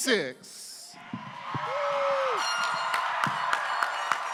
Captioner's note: applause